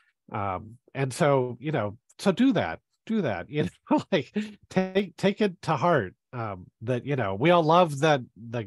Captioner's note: laughs